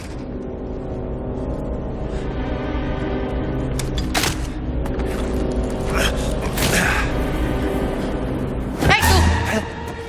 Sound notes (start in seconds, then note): 1.1 tense music playing; 6.0 soldier grunting; 8.8 in Italian